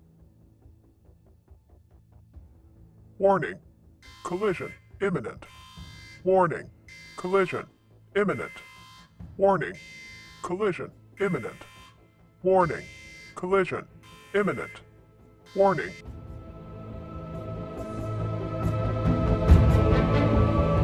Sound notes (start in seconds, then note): 0.2 dramatic music; 7.3 siren; 17.3 dramatic music